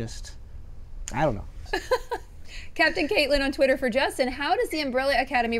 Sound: laughs

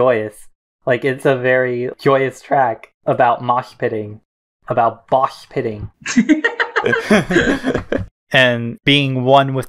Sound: both laugh

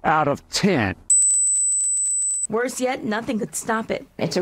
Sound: rinnnnnnnggg

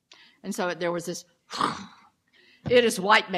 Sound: blowing out breath

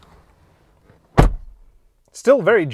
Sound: thudding sound

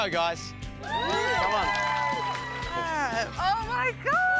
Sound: cheering

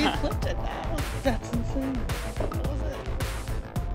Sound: blonde woman laughs

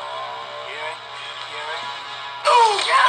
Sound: boy muttering

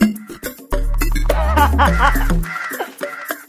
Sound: laughing

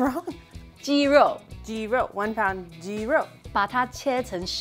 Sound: speaking in mandarin

